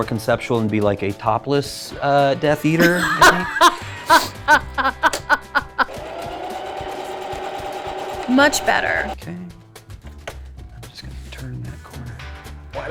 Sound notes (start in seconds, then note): 2.8 laughing; 5.7 sewing machine whirring